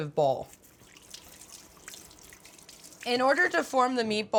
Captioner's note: water running